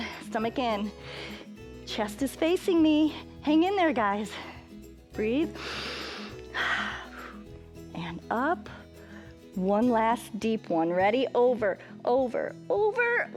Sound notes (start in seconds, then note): 5.5 inhales and exhales